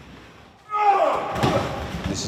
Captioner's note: yells